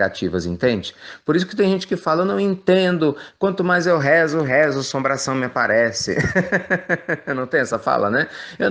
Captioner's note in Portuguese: risos